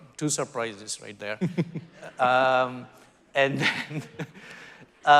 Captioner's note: laughing